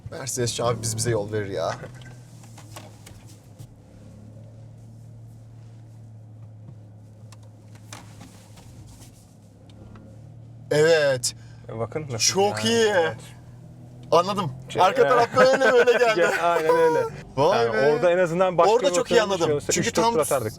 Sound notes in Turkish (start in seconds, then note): 15.0 kahkaha